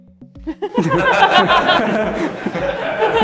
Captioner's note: laughter